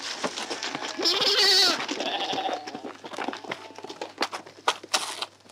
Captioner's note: baa